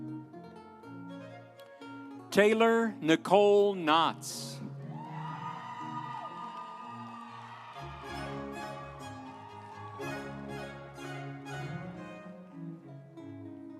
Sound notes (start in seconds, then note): 4.2 instrumental music; 4.9 audience cheering